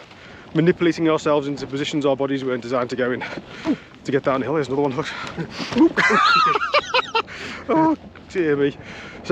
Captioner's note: laughing